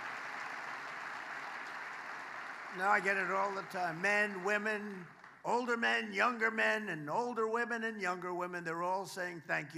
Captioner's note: applause